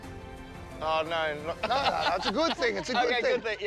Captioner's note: laughs